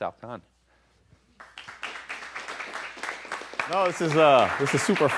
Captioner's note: applause